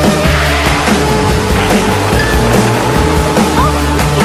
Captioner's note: crash!